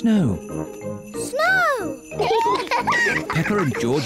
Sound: both giggle

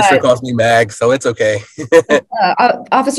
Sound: laughs

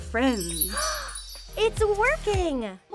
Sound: chimes dinging; Barbie gasps

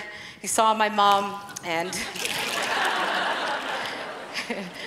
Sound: laughing

